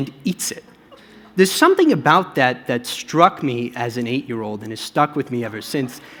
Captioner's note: laughter